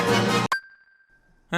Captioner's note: music stops